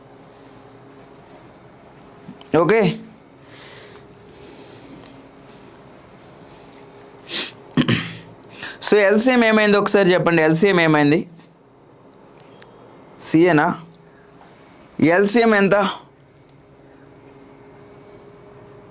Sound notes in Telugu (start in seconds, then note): 7.7 గొంతు సవరించుకోవడం